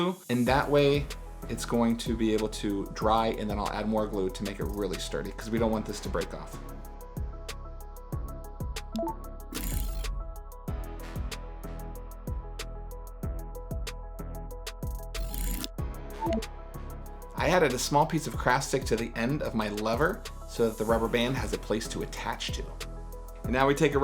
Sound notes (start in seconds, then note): 8.1 relaxed electronic music; 8.9 soft electronic chimes